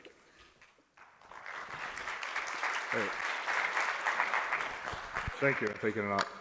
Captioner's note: applause